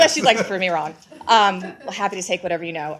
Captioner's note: laughter